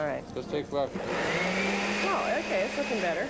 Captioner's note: blender whirring